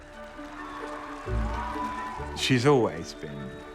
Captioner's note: crowd cheering